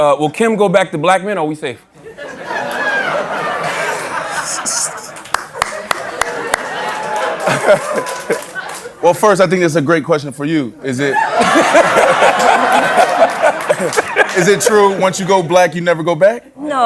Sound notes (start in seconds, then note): 2.0 laughter; 11.1 laughter